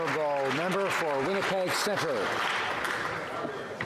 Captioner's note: some Applause